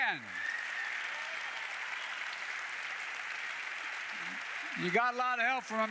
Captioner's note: applause